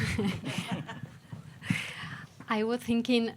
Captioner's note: panelists chuckling